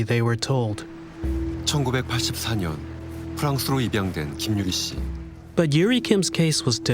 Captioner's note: speaking Korean